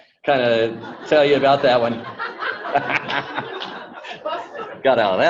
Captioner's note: group laughs